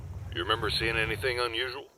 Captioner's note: Warthog Engine Shuts Off